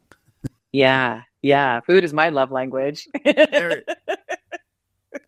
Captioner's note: laughs